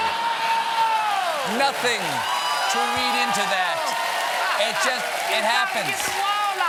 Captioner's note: cheers and applause